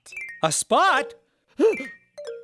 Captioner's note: gasp